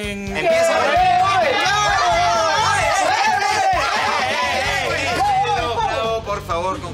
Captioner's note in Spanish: Gritos